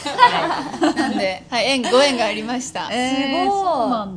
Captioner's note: laughs